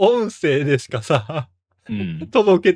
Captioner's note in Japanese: 笑い